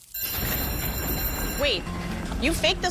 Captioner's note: bell rings